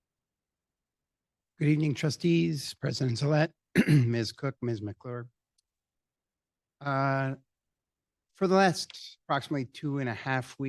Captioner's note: clears throat